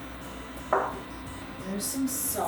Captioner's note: bowl clinking